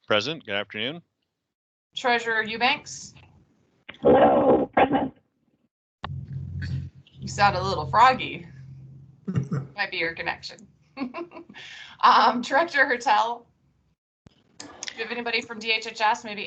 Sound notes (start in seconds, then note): 9.2 laughs